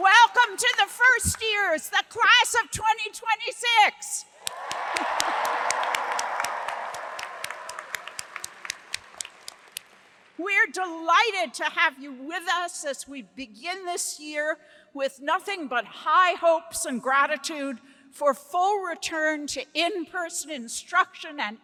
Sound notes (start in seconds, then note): 4.4 hands clapping; 4.4 audience applauds